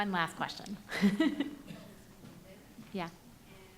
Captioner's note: laughing